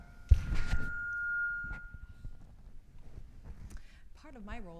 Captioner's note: microphone squeals